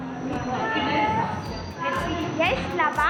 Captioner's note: in Armenian; speaking Armenian